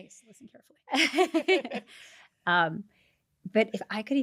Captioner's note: laughs